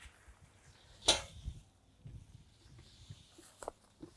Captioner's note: barrel clinks